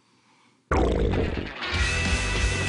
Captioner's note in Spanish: Rugido de las tripas